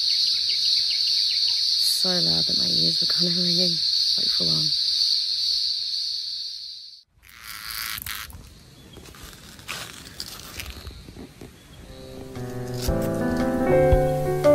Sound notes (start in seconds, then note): 0.0 bird chirps in the background; 7.3 cicada makes loud buzzing noise as it moves